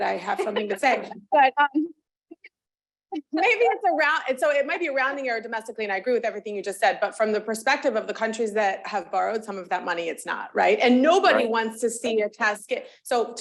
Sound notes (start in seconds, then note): 3.2 laughing